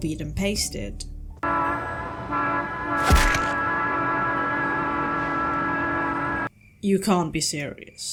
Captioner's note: tram + crash noises